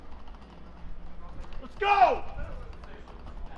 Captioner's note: footsteps